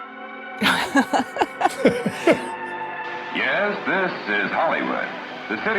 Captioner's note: laugh; old instrumental music